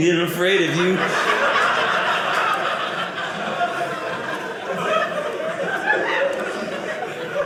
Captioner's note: audience laughing